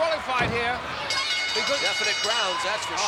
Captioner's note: bell rings